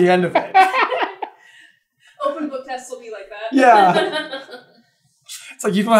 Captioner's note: laughing